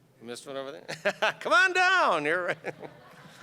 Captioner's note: laughing; audience laughing